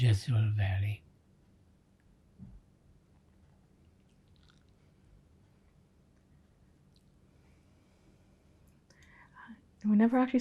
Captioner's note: pauses 8 seconds